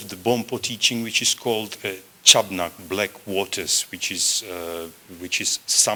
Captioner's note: non-english